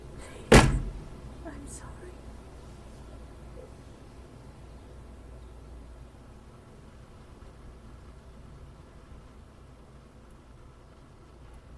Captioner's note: receding footsteps. door slams; whispering; rain fades out; silence